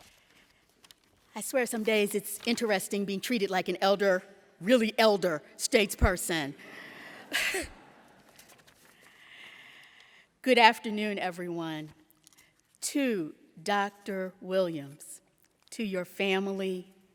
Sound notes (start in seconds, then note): 7.2 laughter